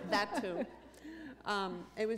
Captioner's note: laughter